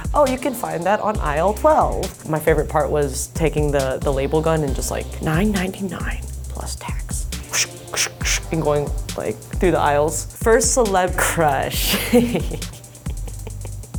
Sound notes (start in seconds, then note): 7.3 whooshes; 11.8 laughs